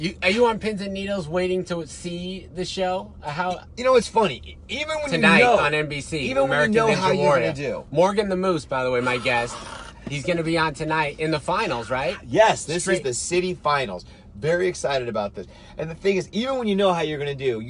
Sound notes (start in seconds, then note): 9.7 screams quietly